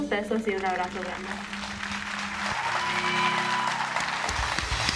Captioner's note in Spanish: Aplausos